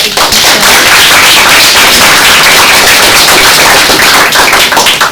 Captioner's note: audience applauds